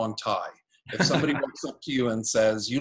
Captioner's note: laughing